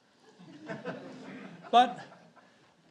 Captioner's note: audience laughs